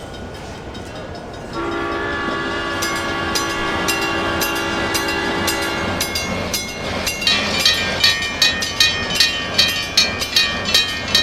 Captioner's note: SP Cab Car horn, railroad crossing ringing, CNW Cab Car horn